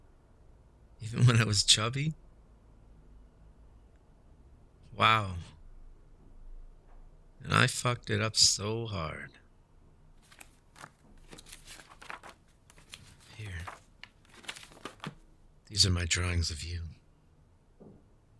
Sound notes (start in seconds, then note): 10.2 SFX: Papers turning